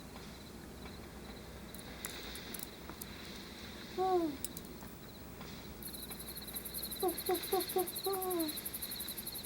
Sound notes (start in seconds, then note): 4.0 owl hoots; 5.9 crickets chirp; 6.3 owl hoots